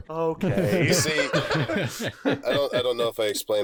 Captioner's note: 3W laughter